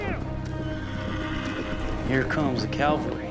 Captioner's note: horse neighs outside